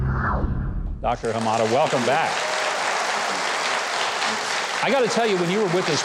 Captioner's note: audience applauding